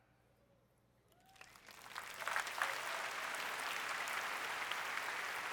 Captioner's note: applause